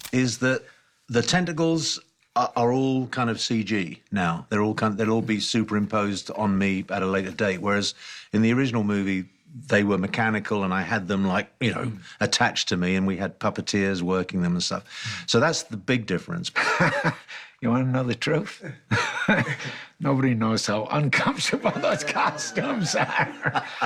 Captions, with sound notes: is that the tentacles are all kind of CG now. They're all-- They'll all be superimposed on me at a later date, whereas in the original movie, they were mechanical and I had them, like, you know, attached to me, and we had puppeteers working them and stuff. So, that's the big difference. [laughs] You wanna know the truth? Nobody knows how uncomfortable those costumes are.